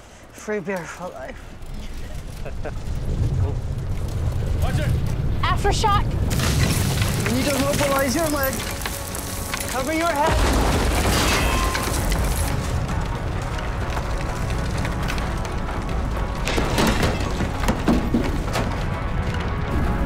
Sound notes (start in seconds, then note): 2.3 both laugh; 3.0 rumbling; 6.3 clatter; 11.1 rumbling continues